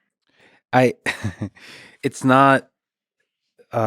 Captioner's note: chuckles